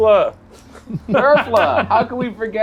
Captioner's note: laughs